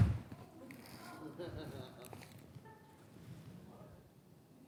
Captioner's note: smashing sound